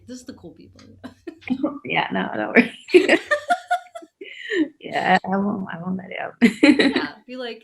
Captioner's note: laughing